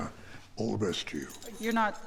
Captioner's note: keys jingling